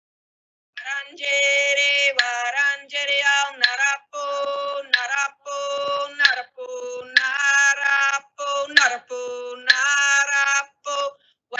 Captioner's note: singing in woiwurrung